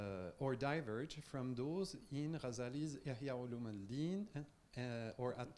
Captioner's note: speaking in Farsi